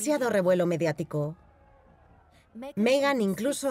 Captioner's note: crowd yelling